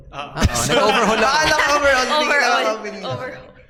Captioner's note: laughs